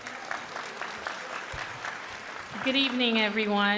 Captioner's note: crowd applauding